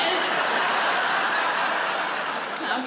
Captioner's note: audience laughs